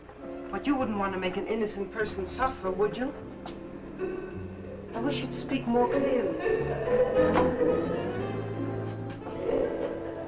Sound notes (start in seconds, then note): 3.7 faint muffled chatter nearby; 6.1 Vi laughing; 6.1 dramatic music